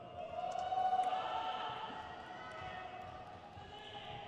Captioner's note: crowd cheers